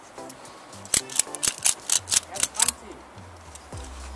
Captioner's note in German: Klack Klack Klack Klack